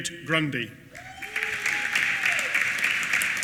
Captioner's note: applause